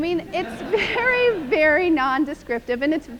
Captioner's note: laughter